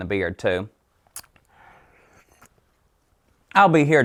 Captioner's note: licking